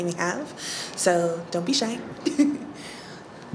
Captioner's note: laughs